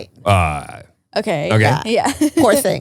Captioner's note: laughs